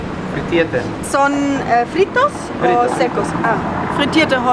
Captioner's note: in Spanish; in German